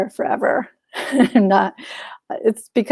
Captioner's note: chuckles